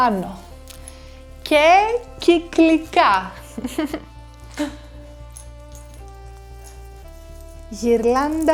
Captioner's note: laughs